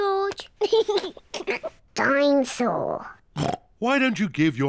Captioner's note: laughs; oinks